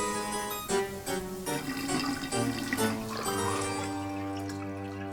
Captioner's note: water flushing down a drain